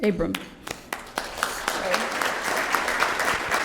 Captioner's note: applause